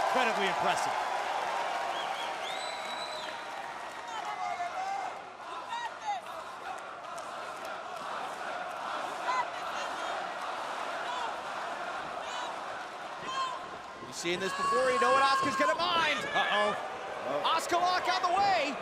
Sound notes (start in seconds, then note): 2.1 crowd chatter